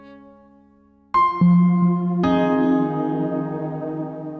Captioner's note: chime